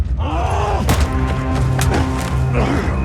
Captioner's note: grunts